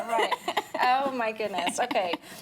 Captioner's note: laughing